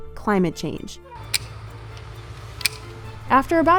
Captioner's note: secateurs snapping